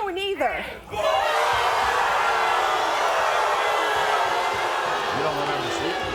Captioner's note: crowd roaring and booing